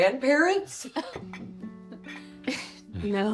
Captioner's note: laughs